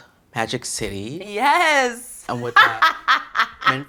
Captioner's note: laughs